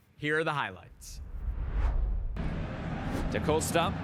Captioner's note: graphic whooshes